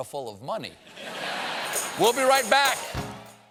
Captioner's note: laughter